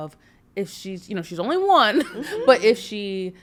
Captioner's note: chuckles